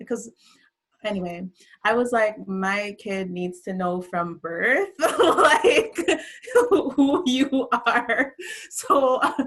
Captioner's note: laughs